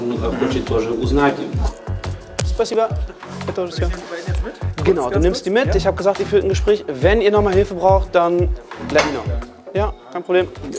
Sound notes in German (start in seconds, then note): 2.6 auf russisch